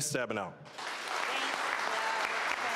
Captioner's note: applause